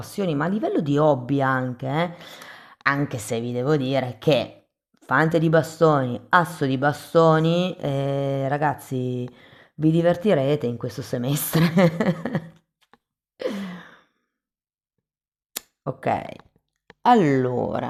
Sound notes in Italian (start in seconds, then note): 11.5 risate